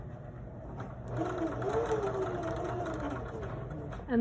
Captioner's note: sewing machine hums